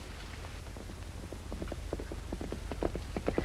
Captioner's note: horse trotting